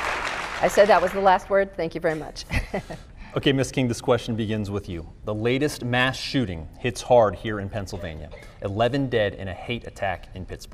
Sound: applause

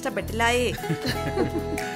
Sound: everyone laughs

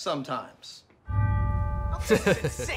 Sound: intense music; chuckles

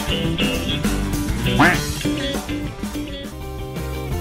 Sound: chirp

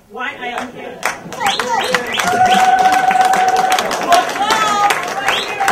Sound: audience applause, cheer and whistle

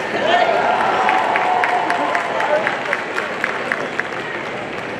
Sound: audience cheering and applauding

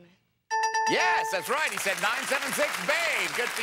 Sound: bell rings

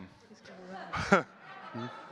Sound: chuckles

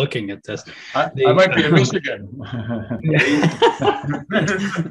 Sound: all laughing

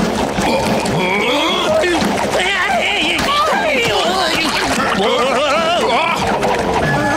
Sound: indistinctly grunting, shouting

